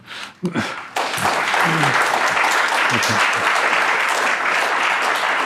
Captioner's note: audience applauding